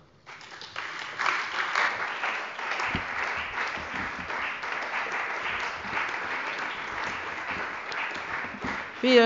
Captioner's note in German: Beifall bei der CDU und dem BÜNDNIS 90/DIE GRÜNEN